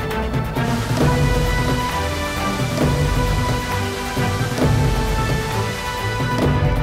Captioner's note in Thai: เสียงน้ำตก